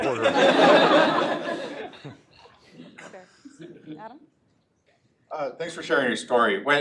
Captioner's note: laugh